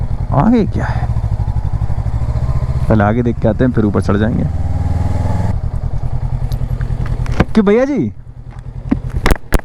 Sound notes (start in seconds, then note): 4.8 engine thrum; 8.9 camera falls